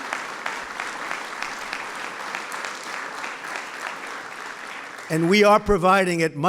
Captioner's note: applause